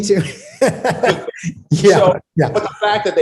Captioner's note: laughs